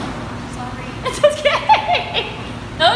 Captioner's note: laughing